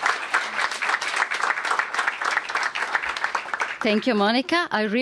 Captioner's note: applause